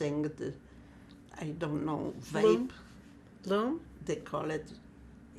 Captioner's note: german